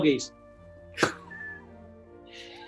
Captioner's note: scoffs; chcukling